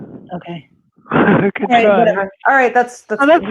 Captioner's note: chuckles